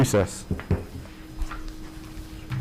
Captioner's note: gavel pounding